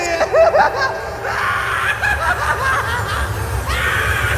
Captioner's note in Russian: Истерический смех